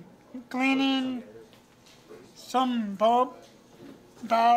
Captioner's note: background talk